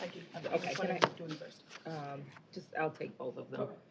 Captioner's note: overlapping chatter